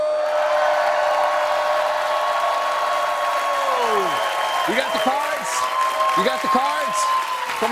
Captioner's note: cheers and applause